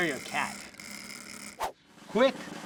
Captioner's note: stirrer vibrating